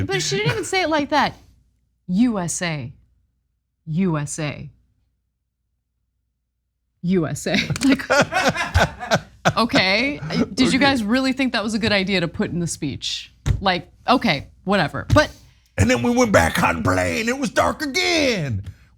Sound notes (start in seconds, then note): 7.6 laugh